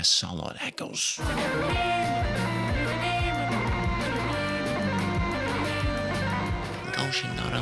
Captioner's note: beep-beep